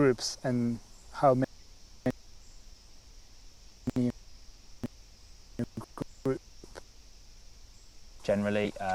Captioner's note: break in transmission